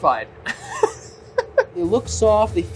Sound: laughing

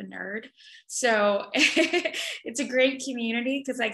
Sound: laughs

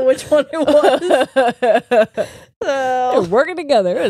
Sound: both laugh

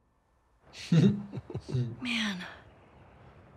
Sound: laughs

